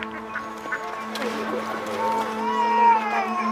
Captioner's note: birds chirping, splashing; baby crying